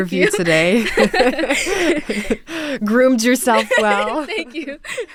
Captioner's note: laughter